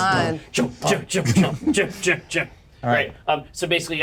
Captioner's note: vocalizes